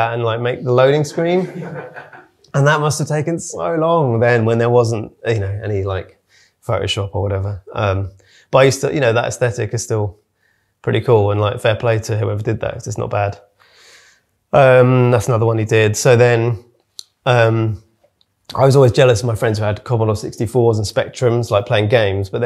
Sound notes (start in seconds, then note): 1.3 audience laughing